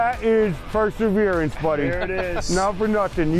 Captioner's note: laughs